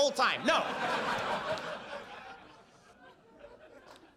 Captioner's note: audience laughs